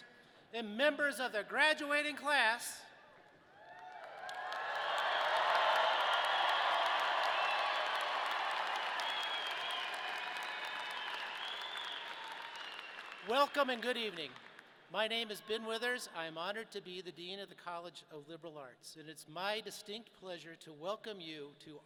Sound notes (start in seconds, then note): 4.1 audience cheering